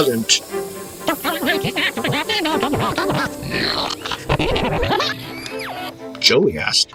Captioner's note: high-pitched whining